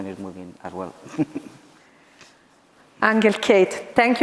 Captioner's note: laughs